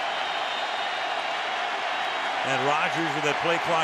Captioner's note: whistle